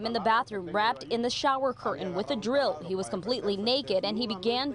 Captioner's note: speaking in spanish